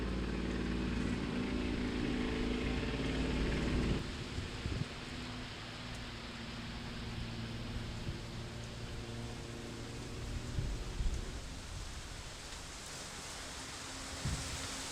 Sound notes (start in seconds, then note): 10.5 leaves rustling